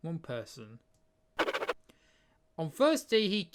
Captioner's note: scribbling sound